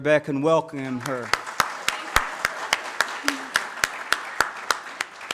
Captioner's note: audience claps